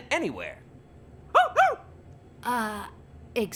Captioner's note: excited barking